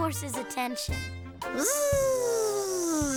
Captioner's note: buzzing